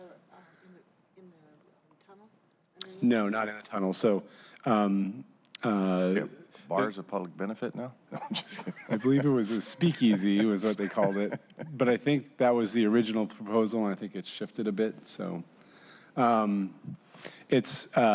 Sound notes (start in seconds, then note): 3.2 laughter